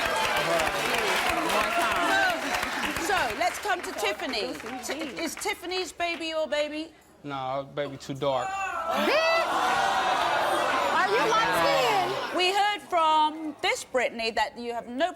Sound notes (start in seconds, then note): 0.0 laughter and applause; 8.5 audience shouting